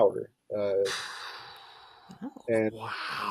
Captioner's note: exhaling